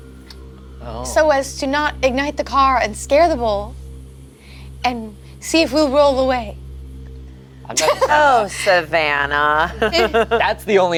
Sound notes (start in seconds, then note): 7.7 laughs; 9.8 chuckles